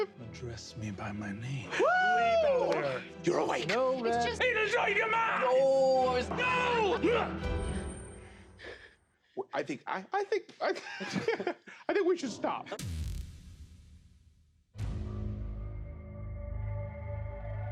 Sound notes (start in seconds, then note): 10.6 laughs; 14.8 ominous music